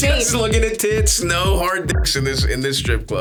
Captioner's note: beeps